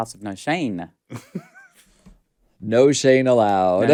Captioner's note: laughs